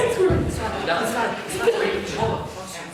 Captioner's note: inmates consoling